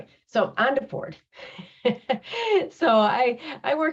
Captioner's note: laughs